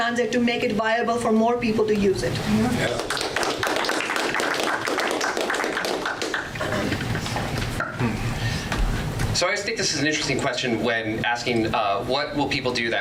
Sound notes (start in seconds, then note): 2.8 audience applause